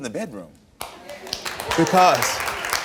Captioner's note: audience applauds